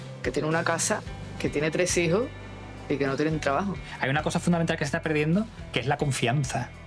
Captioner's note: speaking Spanish; speaking Spanish